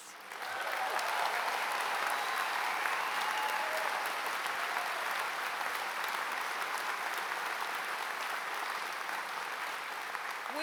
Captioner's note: applause